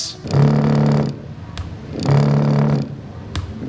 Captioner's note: vibrating noise